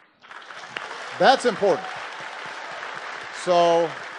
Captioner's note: applause